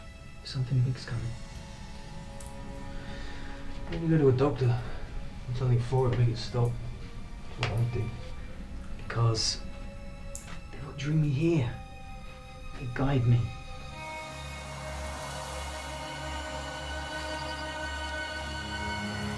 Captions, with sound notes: Something big is coming. - Why don't you go to a doctor? Get something for it, make it stop? That's what I'd do. - Because they're what drew me here. They guide me. (wind blowing in the crops)